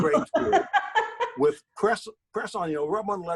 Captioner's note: laughing